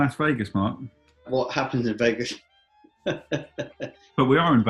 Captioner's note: mock chuckling